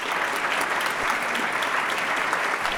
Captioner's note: applause